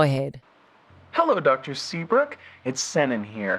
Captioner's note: BACKGROUND SFX:Outside ambience, wind noises